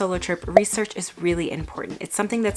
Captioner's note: bubble pops